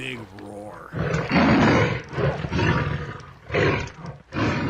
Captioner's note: lion roaring